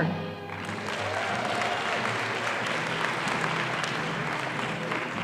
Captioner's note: audience applauding